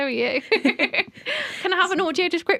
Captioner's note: laughter